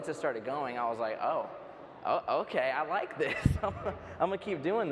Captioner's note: laughs